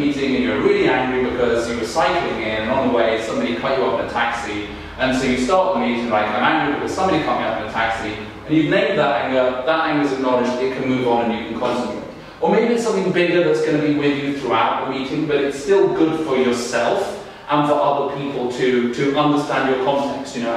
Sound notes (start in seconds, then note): none